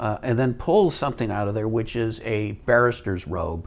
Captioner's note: none